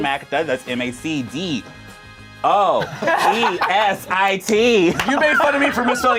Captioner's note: group laughs